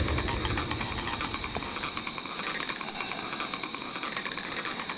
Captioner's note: chittering continues